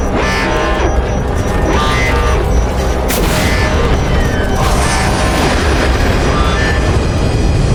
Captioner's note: alarm blares; suspenseful music continues; sparks crackle; systems drone